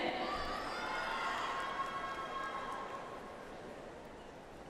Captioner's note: audience applauds